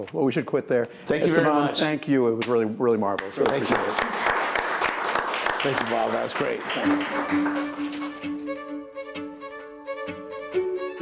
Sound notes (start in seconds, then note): 3.1 applauding; 7.6 upbeat casual music